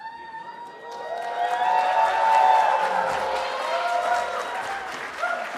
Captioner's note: cheering